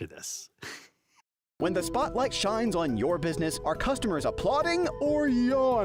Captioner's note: voiceover